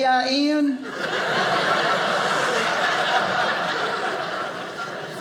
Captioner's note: audience laughing